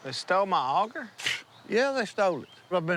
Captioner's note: snorts